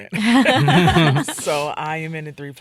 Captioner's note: all laughing